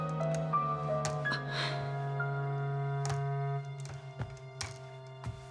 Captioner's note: crutches thudding